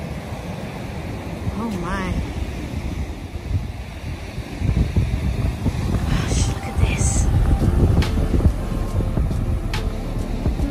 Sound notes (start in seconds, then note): 2.3 waves crash loudly onto the beach